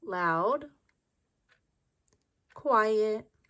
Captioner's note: clock ticks